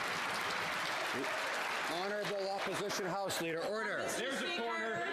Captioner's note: some Applause